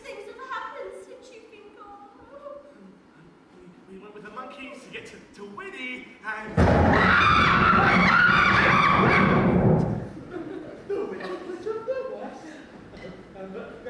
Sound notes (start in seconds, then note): 6.6 GLINDA and GAIL jump and scream